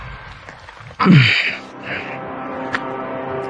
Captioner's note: clears throat